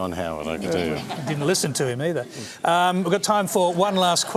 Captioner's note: laughter